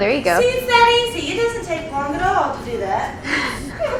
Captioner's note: laughs